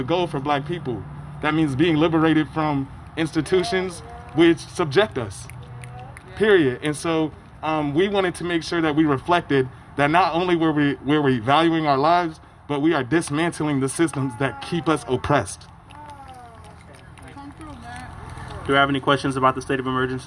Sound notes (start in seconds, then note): 15.9 applause